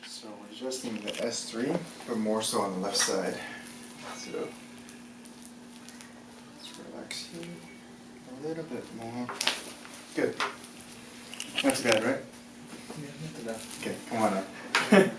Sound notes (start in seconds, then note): 9.3 cracking; 14.7 laughs